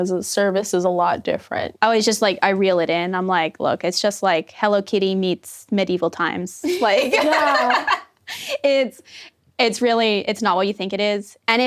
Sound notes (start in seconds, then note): 6.7 laughing